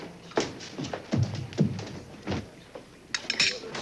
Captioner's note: thudding footsteps; fork clatters